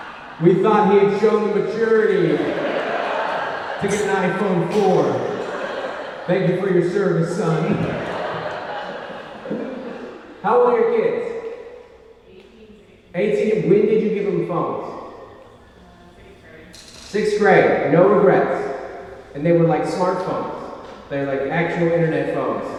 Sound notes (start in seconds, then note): 9.6 laughs